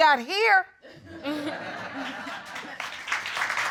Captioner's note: chuckling; audience applauding